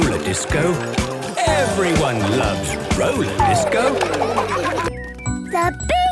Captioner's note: laughter